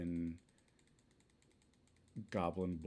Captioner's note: spam clicking